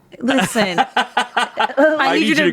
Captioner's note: laughs